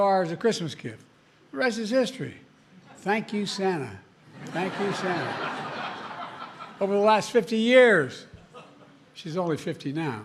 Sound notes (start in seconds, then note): 4.3 laughter